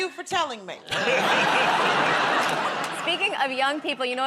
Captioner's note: laughter